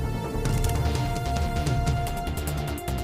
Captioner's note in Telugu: none